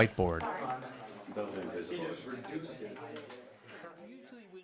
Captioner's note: class chatters